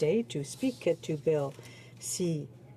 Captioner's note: speaking in french